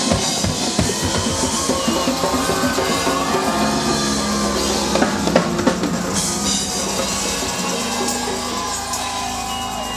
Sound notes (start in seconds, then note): 2.1 crowd cheering